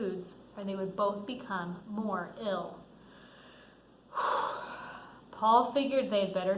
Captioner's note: sighs